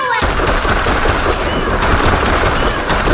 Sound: gun fires in a short, rapid manner several times

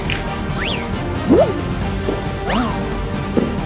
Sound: dramatic music; whizzing

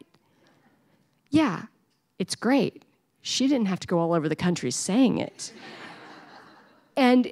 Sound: laughter

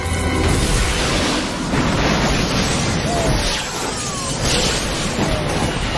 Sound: explosions

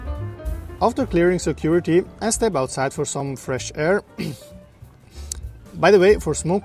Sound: räuspern

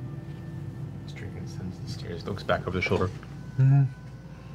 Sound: questioning noise

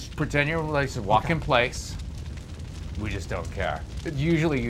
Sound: fire crackles

